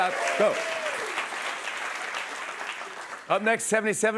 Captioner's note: cheers and applause